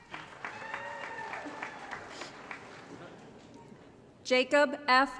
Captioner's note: applause & Cheering